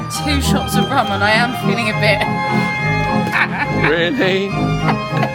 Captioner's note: laughing